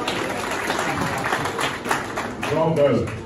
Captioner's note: claps